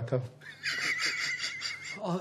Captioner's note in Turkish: Gülme sesi